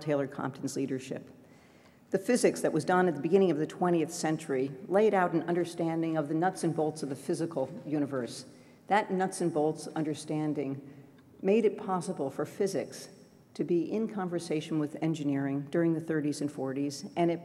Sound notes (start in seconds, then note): none